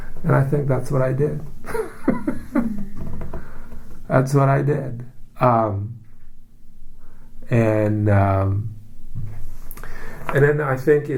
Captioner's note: laughs